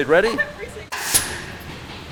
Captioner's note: nail gun fires